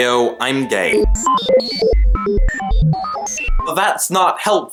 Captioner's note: robot processing noise